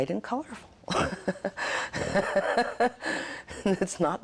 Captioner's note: laughs